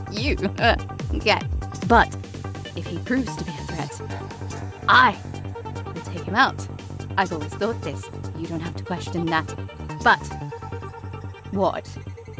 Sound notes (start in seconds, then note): none